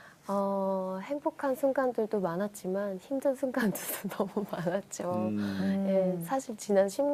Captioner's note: laughter